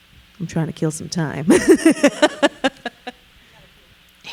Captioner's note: laughing